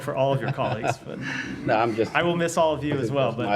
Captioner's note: laughter